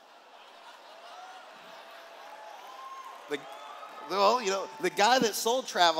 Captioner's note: laughter